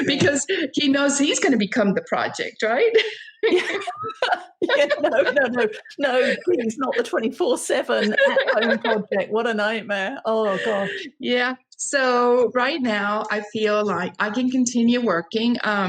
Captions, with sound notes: Because he knows he's going to become the project, right? (laughing) - No, no, no, no, please not the 24/7 at home project. What a nightmare, oh gosh. - Yeah, so right now I feel like I can continue working.